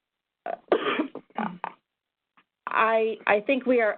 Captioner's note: coughs